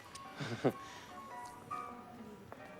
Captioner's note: laughs nervously